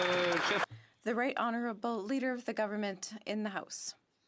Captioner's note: some Applause